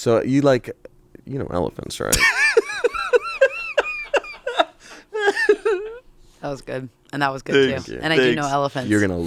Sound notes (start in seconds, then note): 2.2 laughs